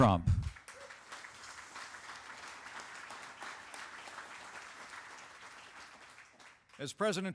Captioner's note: applause